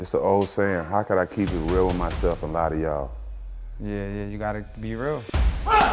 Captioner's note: rhythmic music; grunts